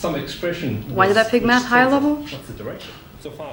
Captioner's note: voice-over